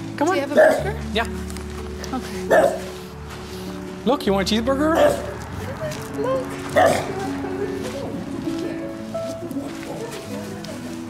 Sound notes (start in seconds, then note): 2.5 bark; 4.9 bark; 6.7 bark